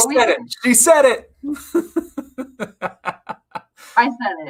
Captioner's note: laughs